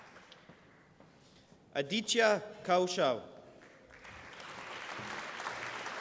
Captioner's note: applause